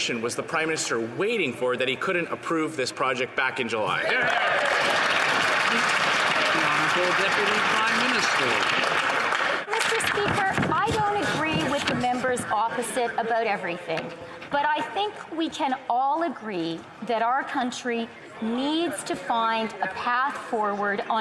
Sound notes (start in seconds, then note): 7.2 some Applause